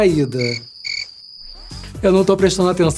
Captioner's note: crickets